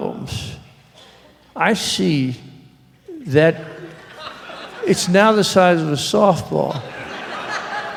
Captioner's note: laughter